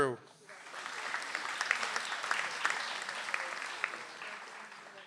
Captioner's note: audience applauds